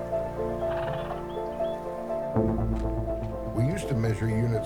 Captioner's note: horse sighs